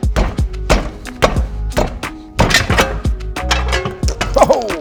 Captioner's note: soft music; wheel banging and clanking